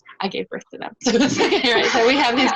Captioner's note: laughs